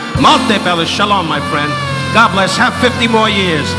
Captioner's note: speaking in a foreign language